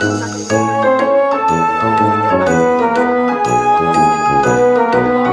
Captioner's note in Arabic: جرس